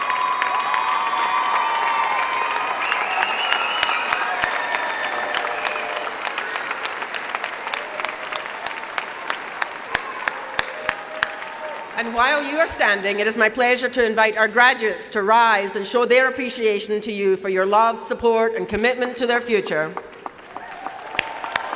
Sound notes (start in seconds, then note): 6.8 applause